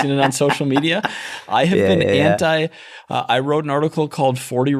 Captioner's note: chuckle